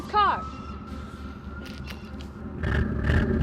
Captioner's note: siren wailing; engine revving